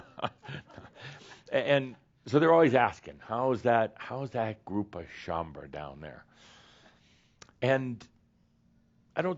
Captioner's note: chuckles